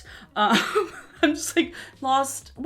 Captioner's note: laughing